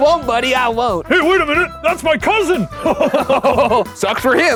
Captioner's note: laughs